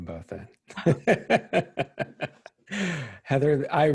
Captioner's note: laughing